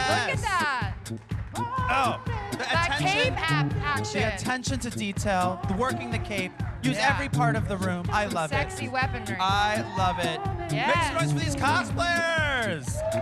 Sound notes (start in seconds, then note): 3.2 applause